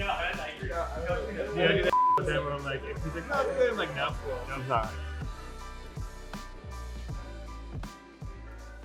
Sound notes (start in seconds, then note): 1.8 everyone chats